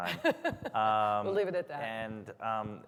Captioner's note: chuckles